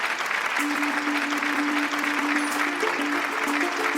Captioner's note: applause